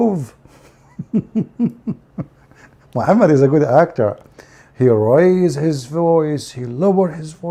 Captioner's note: Ketawa